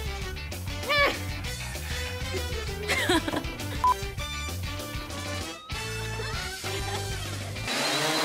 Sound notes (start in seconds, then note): 2.7 laughing